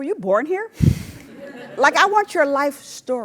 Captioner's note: laugh